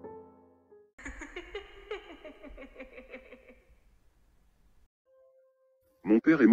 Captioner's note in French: Rire